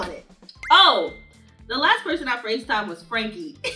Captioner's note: notification chiming; laughing